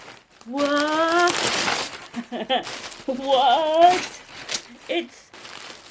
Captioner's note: laughter